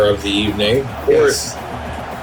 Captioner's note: crowd Noises